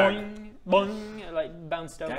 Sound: boing; boing!

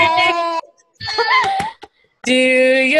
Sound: laughter

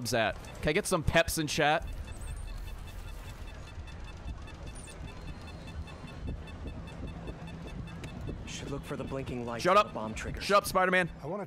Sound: beeps

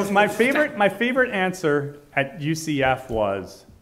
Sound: laughing

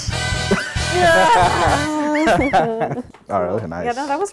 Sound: laughs; moans loudly

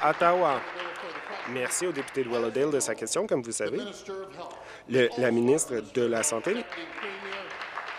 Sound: applause

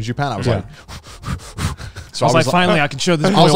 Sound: heavy breathing

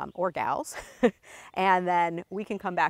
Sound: laughing

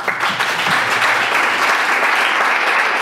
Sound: clapping

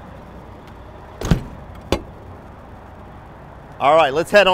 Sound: mechanical latching

